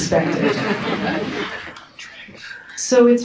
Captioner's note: audience laughs